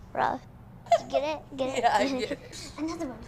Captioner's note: fake white mom laugh